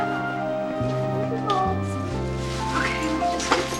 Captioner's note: babbling